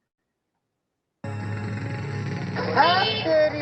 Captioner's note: motor-cycle engine roaring; speaking in foreign language